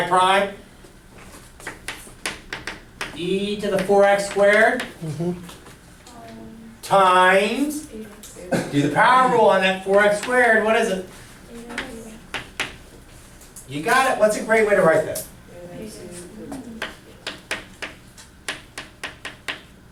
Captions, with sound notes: Y prime E to the four X squared. - [Voiceover] Mm-hmm. - Times. - [Voiceover] E X two. - Do the power rule on that four X squared, what is it? - [Voiceover] E to the X. - You got it. What's a great way to write that? - [Voiceover] Eight X two.